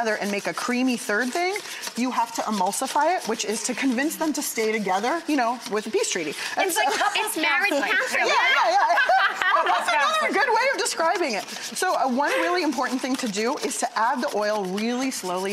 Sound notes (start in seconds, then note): 6.6 laughs